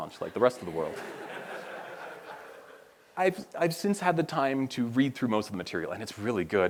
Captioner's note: laughter